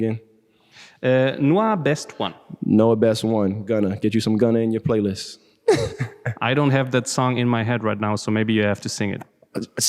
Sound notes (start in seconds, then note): 5.7 lacht